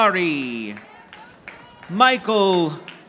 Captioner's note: audience applauding